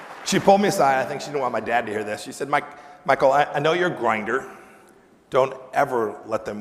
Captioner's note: applause